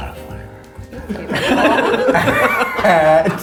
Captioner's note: all laughing